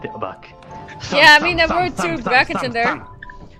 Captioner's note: thumthumthumthumthum!